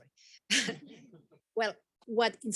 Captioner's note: all chuckle